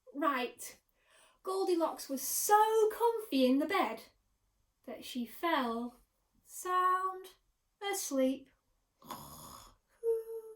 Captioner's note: snoring